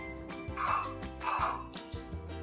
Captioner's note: Big Pig snorts